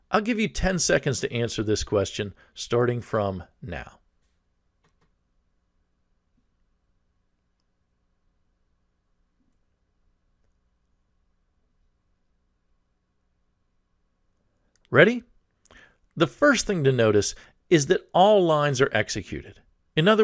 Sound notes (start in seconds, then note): 4.1 pause